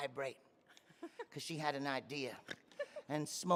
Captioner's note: laughing